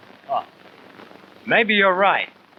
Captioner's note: laughs